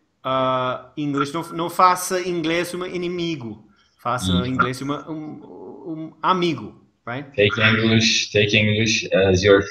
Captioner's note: laughing